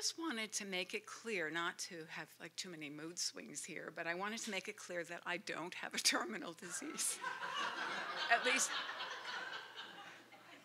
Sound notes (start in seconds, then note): 6.9 laughter